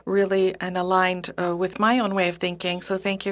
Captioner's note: speaking French